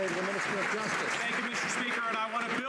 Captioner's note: some Applause